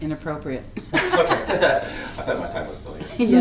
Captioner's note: committee laughs